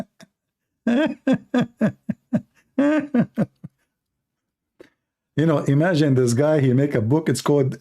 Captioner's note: Ketawa